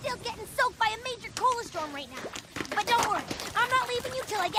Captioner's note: pop! pop! pop! pop!